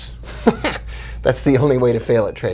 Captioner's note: laughing